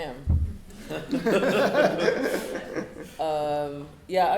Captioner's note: laughing